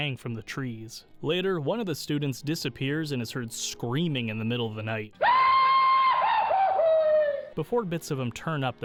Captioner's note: Goofy scream meme